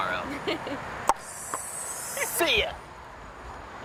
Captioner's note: tongue clicks